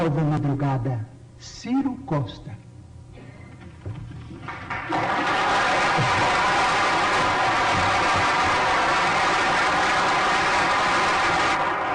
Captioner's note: applause